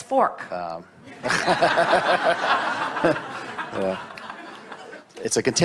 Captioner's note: audience laughs